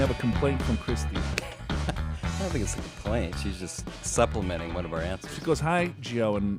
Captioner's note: laughs